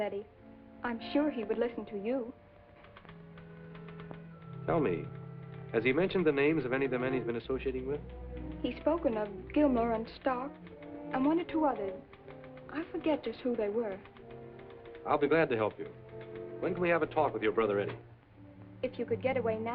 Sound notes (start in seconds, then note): 2.1 typing